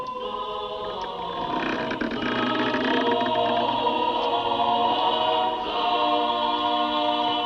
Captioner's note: singing grows louder; door creaking